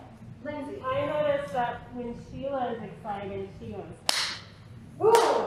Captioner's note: clap